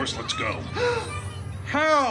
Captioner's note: gasps